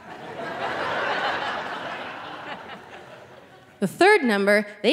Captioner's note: audience laughing